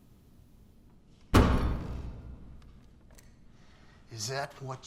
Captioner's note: sheriff's fist pounds